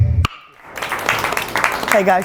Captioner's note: dramatic tone; applause